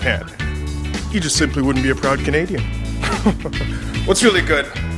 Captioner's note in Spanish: risitas